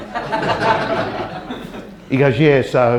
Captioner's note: audience laughter